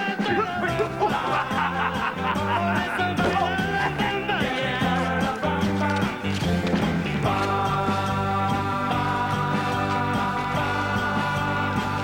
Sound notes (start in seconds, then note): 0.4 grunts of jostling; 1.9 laughing; 3.4 groan